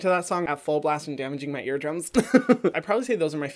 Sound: laughs

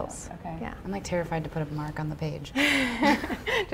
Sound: laughter

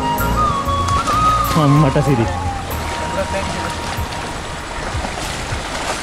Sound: exclamation

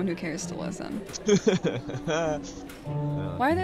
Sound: Hayden laughs

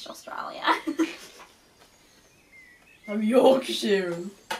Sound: laughing

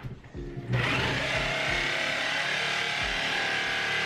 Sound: tool whirring

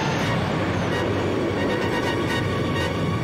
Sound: explosion

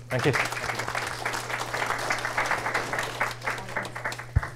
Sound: applause

